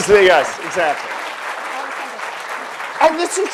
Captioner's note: audience applauds